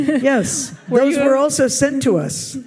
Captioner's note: audience laughs